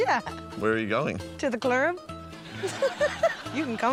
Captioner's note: laughs